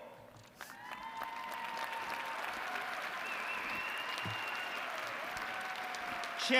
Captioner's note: applause & cheers